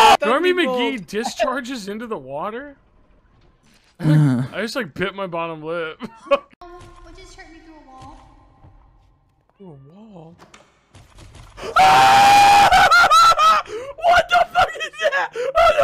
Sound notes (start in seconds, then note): 0.0 both screaming; 4.0 normal moans; 6.2 laughs; 11.6 screams